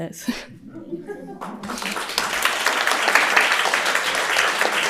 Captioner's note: audience applauds